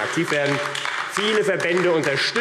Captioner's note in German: Beifall AfD